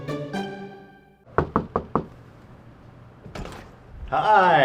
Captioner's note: door knocking